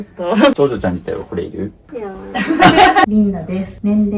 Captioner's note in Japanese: 笑い